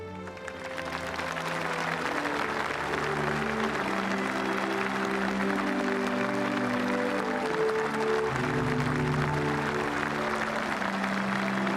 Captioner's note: applause; speaking french